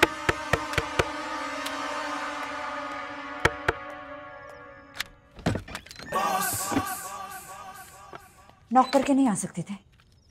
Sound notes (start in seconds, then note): 0.0 knocks on door; 4.8 door opens